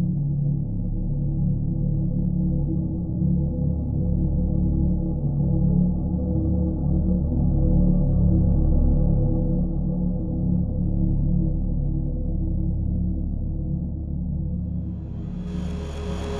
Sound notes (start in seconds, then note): none